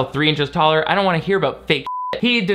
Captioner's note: beep